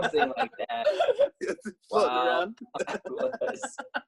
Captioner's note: laughing